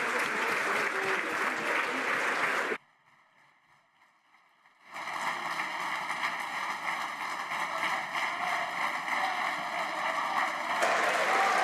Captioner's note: some Applause